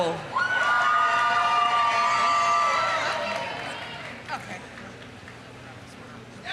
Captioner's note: audience cheering; audience applauding